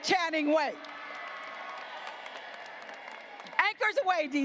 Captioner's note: graduates applauding